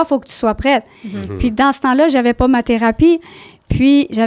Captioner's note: in french